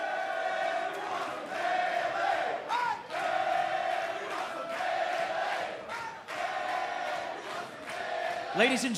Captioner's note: fans chanting